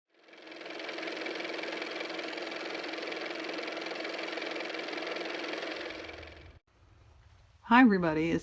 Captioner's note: car motor